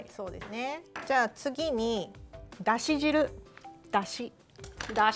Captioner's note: speaking Japanese